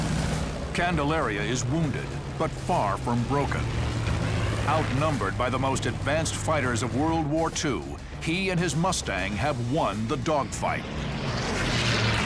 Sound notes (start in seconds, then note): none